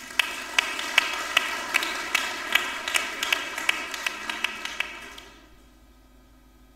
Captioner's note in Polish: oklaski